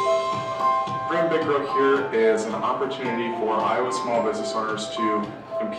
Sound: man's voice

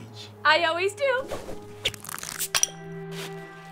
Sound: rope whooshes; rope creaks; bottle cap clatters

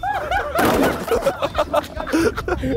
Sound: mobility scooters crashing; men laughing

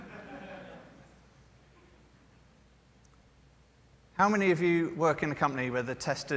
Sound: laughter

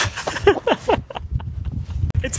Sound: laughs

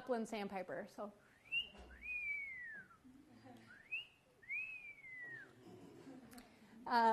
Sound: whistles, imitating the bird call

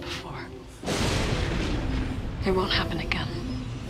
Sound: thunder crashes

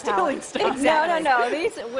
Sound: laughter

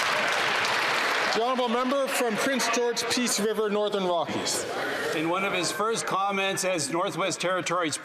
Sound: some Applause

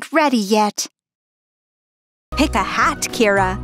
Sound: awkward silence as Arlo stares

